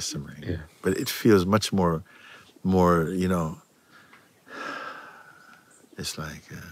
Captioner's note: imitiert sanftes Ausatmen